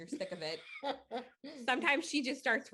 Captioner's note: chuckling